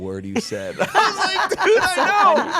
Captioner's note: group laughing